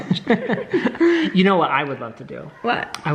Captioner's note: laughs